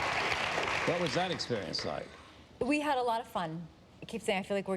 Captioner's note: applause